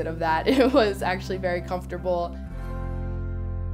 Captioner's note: laughs